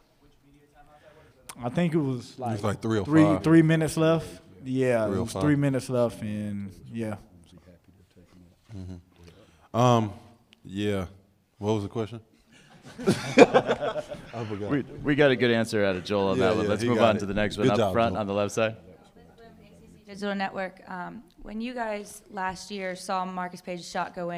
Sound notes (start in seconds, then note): 15.9 laughter